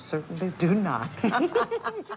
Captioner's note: laughter